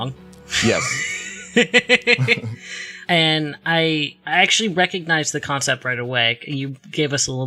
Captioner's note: laughs